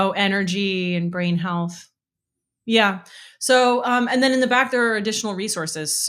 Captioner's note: none